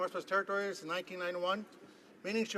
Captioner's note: none